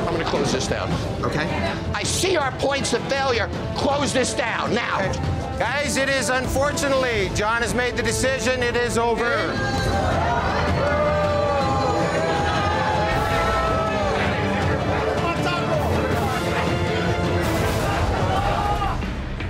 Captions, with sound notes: - I'm gonna close this down, okay? I see our points of failure. Close this down now. - Okay. Guys, it is unfortunately, Jon has made the decision it is over. (customers booing) (intense music)